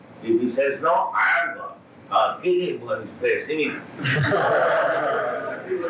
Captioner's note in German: Gelächter